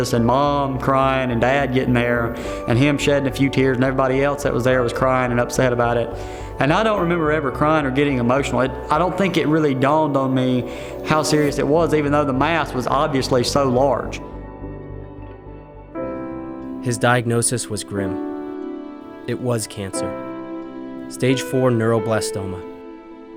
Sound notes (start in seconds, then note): 17.1 voiceover